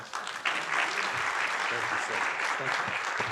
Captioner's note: audience applauding